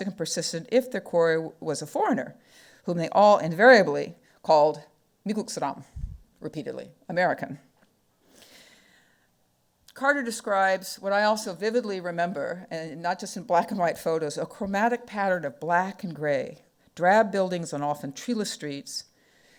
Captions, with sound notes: "and persistent if their quarry was a foreigner, "whom they all invariably called (speaking foreign language) "repeatedly, American." Carter describes what I also vividly remember, and not just in black and white photos, "A chromatic pattern of black and gray, "drab buildings and often treeless streets,